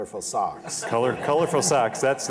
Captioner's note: laughter